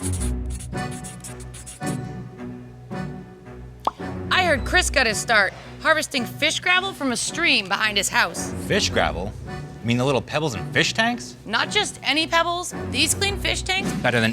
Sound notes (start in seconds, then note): 0.0 intense music; 0.4 marker writing; 3.8 pop